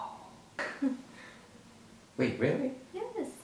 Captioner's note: laughs